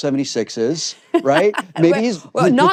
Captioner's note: laughs